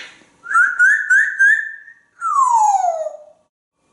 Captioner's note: bird sounds